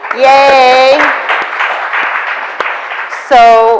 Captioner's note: audience applauds